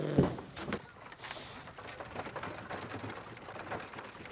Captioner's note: carts rattling